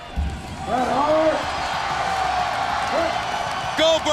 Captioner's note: crowd cheering